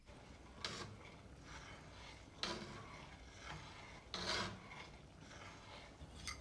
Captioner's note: pan scraping